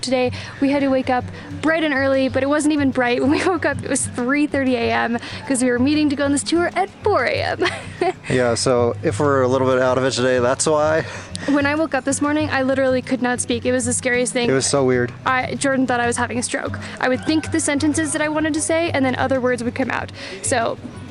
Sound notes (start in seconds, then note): 7.5 chuckles